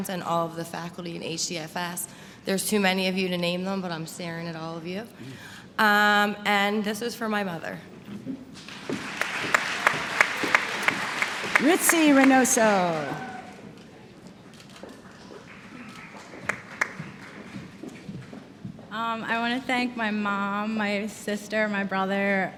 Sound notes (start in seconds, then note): 8.6 applause; 15.4 applause